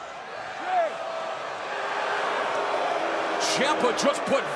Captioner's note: crowd cheering